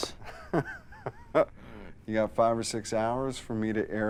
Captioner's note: laughs